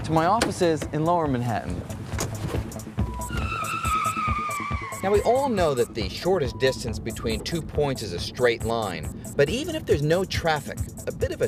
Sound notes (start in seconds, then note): 2.2 tires squealing